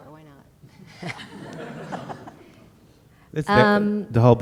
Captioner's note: laughter